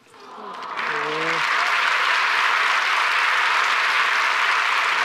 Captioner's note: audience awws and applauds